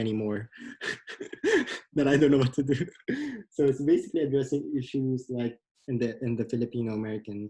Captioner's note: laughs